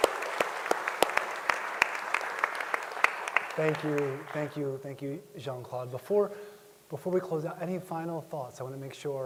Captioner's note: applause